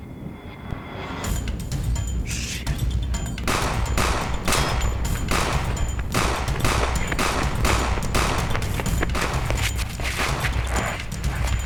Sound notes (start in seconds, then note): 0.1 tense music; 3.3 gunshots popping